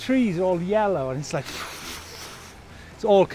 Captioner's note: gusting